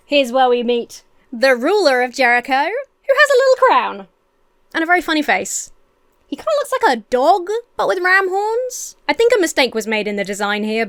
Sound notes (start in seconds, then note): none